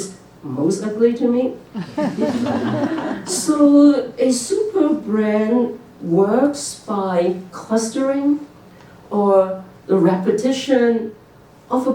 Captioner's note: laughter